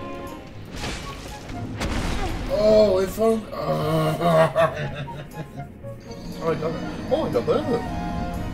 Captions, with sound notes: Oh if only- *grunts* Oh I got him Oh I got both of them